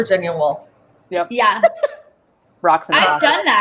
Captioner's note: laugh